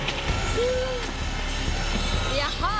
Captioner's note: chainsaw revving; gasps